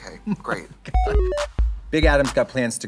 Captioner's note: retro video game sound effects